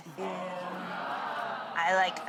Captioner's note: audience wow's